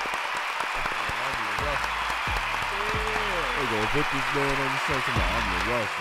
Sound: upbeat hip hop music; audience cheering drowns out; panel and audience cheers

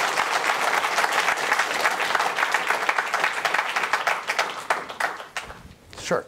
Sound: applause

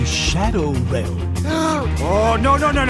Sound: gasp

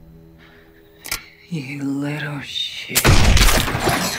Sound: shotgun cocks

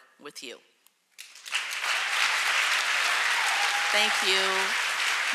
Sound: audience clapping

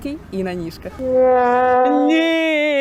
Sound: failure sounds

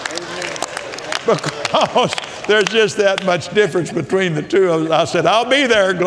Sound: laughs

